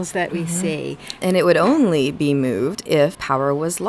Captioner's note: voiceover